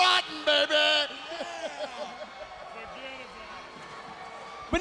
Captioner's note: laughs